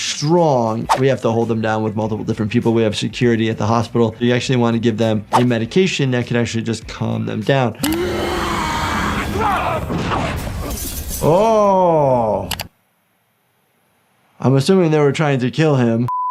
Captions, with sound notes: we have to hold them down with multiple different people. We have security at the hospital. You actually wanna give them a medication that could actually just calm them down. (yelling) Oh. I'm assuming they were trying to kill him.